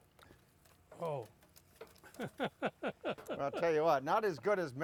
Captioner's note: laughs